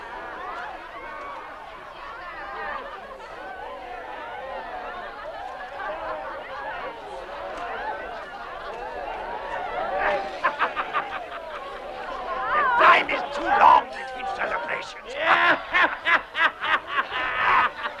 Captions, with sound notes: (Man laughing) - The time is too long to teach for their Patience. (Men laughing)